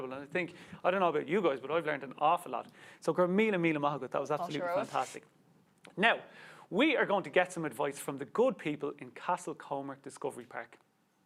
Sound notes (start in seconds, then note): 3.1 speaks Irish